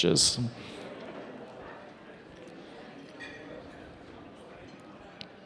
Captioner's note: attendees chatting